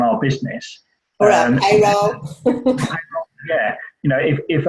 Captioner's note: laughs